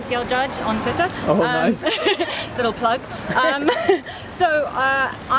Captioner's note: laughs